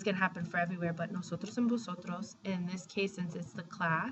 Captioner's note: speaking spanish